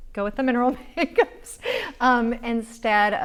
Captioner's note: laughs